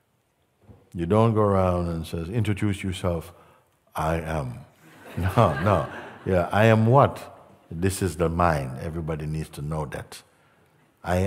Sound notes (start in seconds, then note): 4.9 Lachen